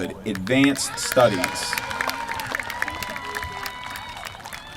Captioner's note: applause